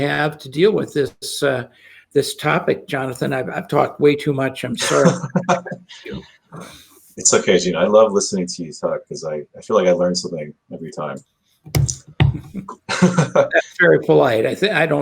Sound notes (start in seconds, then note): 4.7 laughs; 12.3 chuckles